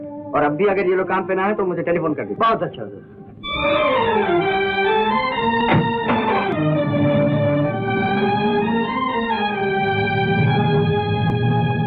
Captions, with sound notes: And even now if they don't come for work then give me a call. Right Sir. (Car engine starts)